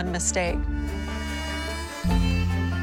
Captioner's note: saw cutting